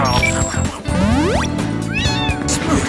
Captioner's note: Pokémon SFX; duck quacking